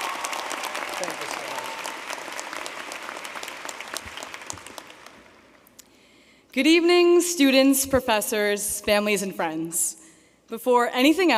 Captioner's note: applause